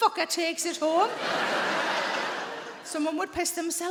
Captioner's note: audience laughing